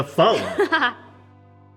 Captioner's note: laughs